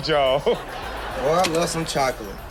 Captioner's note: audience laughs